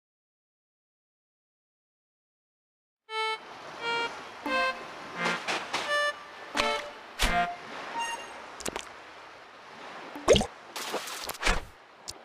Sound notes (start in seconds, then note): 5.1 footsteps